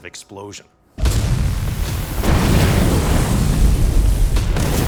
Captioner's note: explosion booming